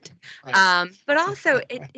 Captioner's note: laughing